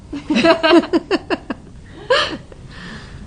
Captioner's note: laughter